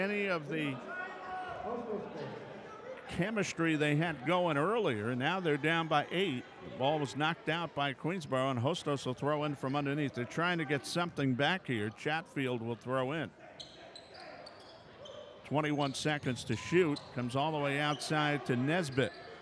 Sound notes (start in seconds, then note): 13.5 shoes squeaking; 13.5 yelling